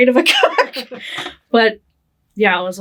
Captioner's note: both laughing